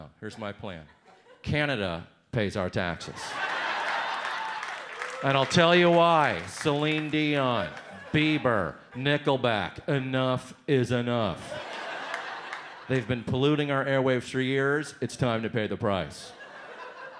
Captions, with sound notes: Here's my plan. Canada pays our taxes. (audience laughs, one boos) And I'll tell you why. Celine Dion, Beiber, Nickelback. Enough is enough. (audience laughs) They've been polluting our airwaves for years. It's time to pay the price.